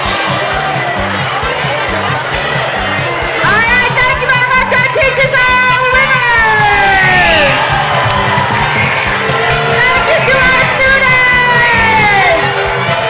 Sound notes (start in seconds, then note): 9.2 crowd booing